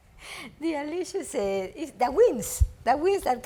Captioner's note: speaks foreign language